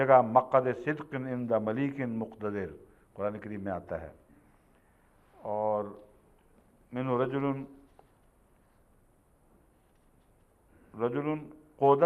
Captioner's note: Arabic